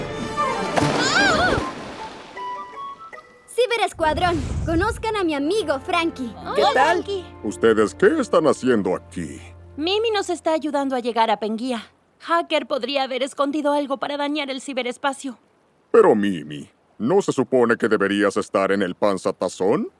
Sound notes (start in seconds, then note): 0.0 water splashing